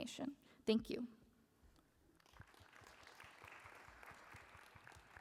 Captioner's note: applause